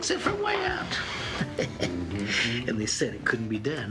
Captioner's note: Joe chuckling